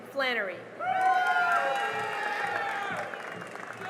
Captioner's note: cheering and applause